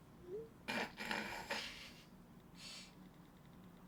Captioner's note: snorts